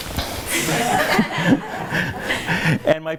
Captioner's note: laughs